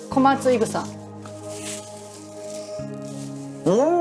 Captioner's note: scraping